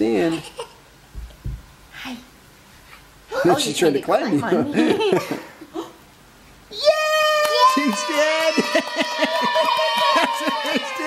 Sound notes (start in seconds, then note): 6.7 cheers